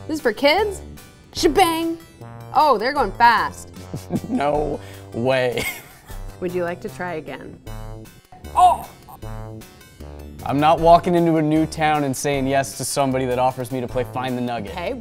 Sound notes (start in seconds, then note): 3.8 chuckling